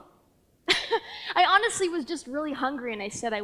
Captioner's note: laughs